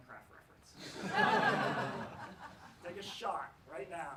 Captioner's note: laughs